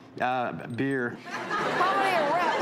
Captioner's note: audience laughing